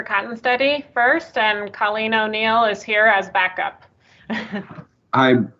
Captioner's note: chuckles